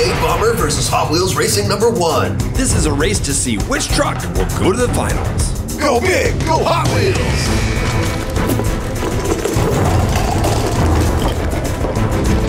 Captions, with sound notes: V8 Bomber versus Hot Wheels racing number one. This is a race to see which truck will go to the finals. Go big, go Hot Wheels. (racing sounds)